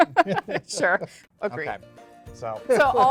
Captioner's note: both laughing